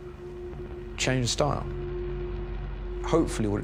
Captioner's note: none